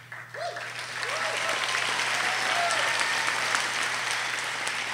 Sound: audience cheers and applauds

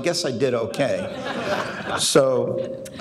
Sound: audience laughing

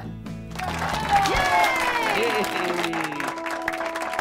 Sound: group applauds

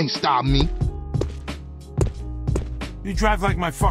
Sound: Some a 'Guy' stumbles

